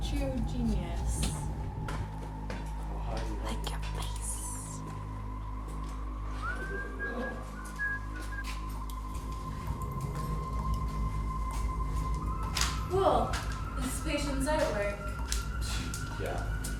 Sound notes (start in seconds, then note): 5.6 ominous music; 6.2 whistling